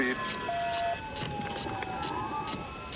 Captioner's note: sirens blaring